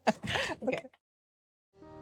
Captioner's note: laughs